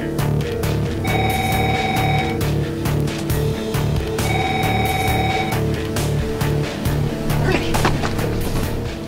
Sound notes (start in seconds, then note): 1.0 phone ringing